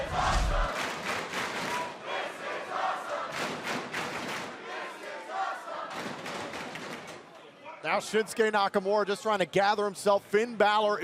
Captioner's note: fans chanting